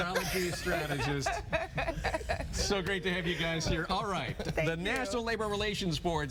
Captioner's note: laughter